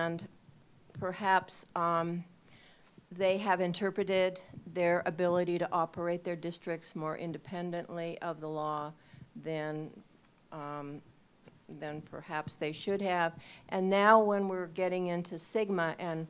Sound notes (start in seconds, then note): none